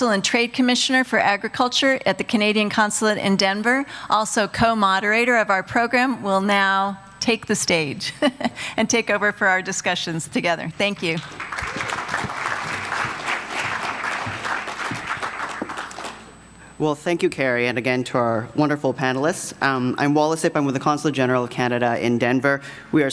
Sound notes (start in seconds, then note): 8.1 chuckles; 11.0 audience applauding